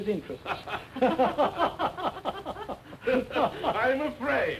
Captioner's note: laughter